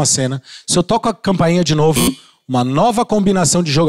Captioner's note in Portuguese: campainha